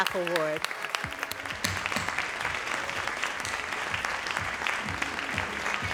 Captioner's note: audience applauding